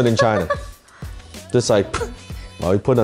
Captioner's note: laughs